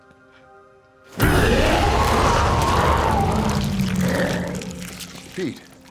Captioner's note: dramatic music; Pete wails